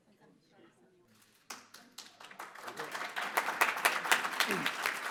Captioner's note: applause